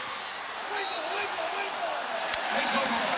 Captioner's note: whistle blows